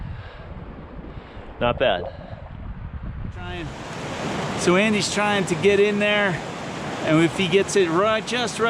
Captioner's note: water rushing